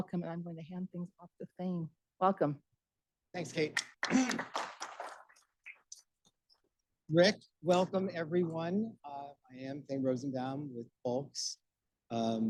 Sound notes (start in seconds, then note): 3.7 audience applauding